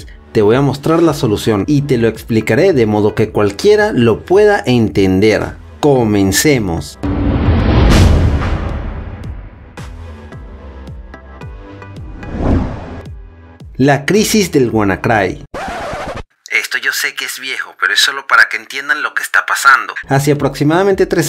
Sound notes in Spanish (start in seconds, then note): 15.5 Turn table sratch